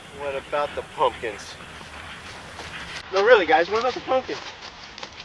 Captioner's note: leaves crunching